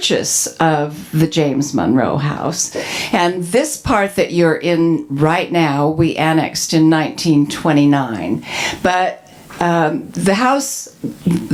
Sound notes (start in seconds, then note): none